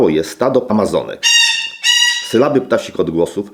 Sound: parrot sounds

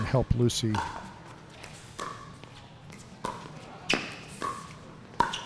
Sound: ball bouncing

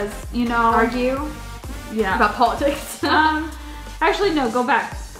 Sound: laughs

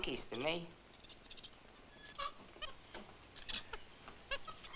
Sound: monkeys chittering

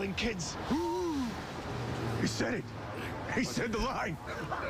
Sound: gasps

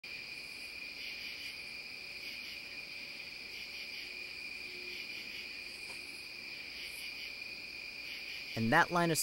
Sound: crickets chirping

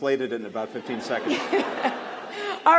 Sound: laughter

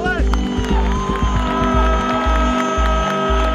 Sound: cheers and applause

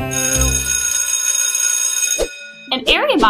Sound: bell rings

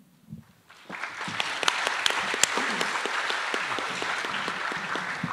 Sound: attendees applauding

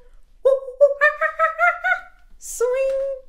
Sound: imitating monkey chattering

